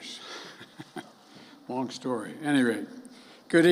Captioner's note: laughs